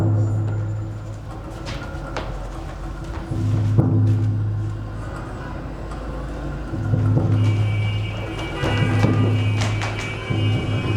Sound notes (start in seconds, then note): 0.3 percussive music; 6.6 traffic sounds